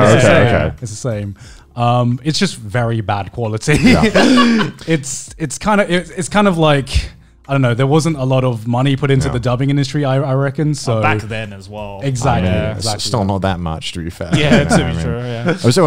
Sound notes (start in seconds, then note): 3.8 laughing loudly